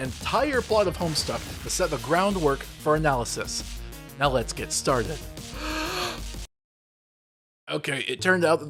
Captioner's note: deep breath